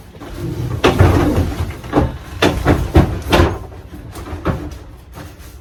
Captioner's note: much clattering and hollow banging sounds